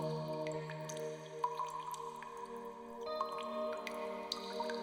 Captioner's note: mysterious music continues; water dripping